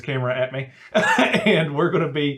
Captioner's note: laughing